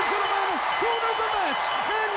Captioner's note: crowd cheering